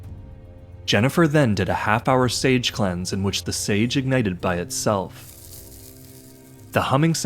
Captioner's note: fire singeing